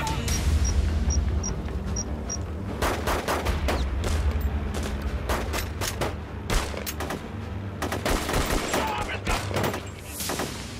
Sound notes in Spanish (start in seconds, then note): 0.1 Hablan al unísono; 2.5 Bip de cámara; 4.0 Disparos